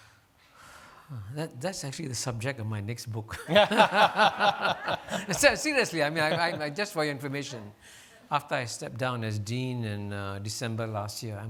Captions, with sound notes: - That's actually the subject of my next book. (laughing) Seriously, just for your information. After I step down as Dean in December last year,